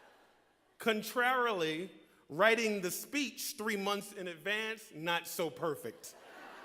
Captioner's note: laughter